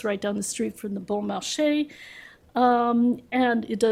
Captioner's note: french